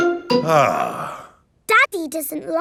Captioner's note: sighs